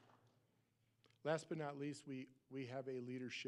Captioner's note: applause